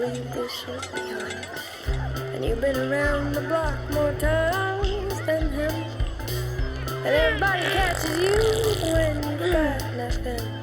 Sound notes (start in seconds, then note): 7.5 farting sound